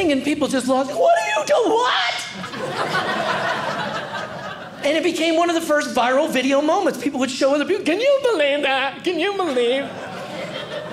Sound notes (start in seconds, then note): 2.3 audience laughing